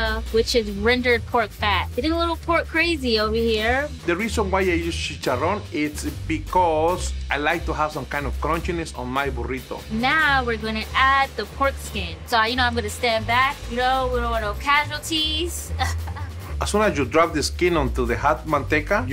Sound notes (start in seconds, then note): 15.6 laughing